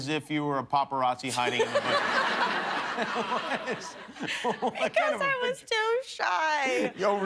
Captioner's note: laughter